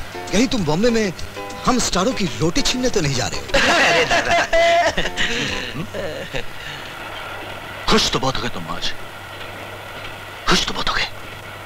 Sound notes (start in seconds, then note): 3.4 laughs